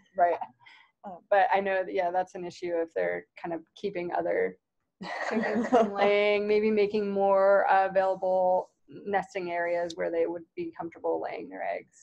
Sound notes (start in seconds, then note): 5.0 laughter